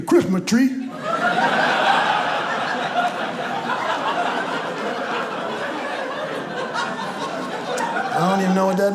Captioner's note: audience laughs